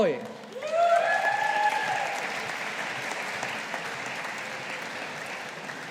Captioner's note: audience applauding